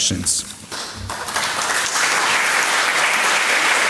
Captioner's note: applause